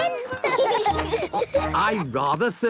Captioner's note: laughing